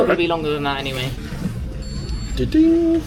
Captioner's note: machine beeps